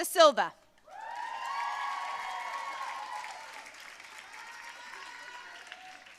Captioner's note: audience cheering and applauding